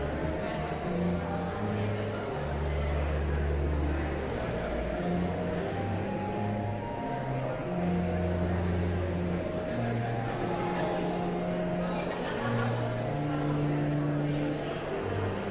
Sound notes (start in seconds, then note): 0.3 pensive organ music continues; 4.8 audience chattering continues; 15.3 pensive organ music continues